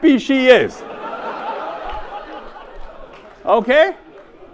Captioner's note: audience laughs